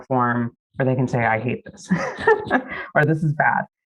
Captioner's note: laughs